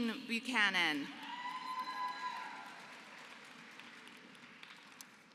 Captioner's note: applause